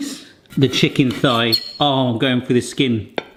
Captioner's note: cutlery clanking